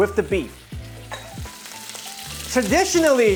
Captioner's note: sizzling sound